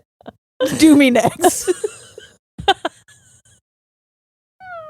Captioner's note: both laughing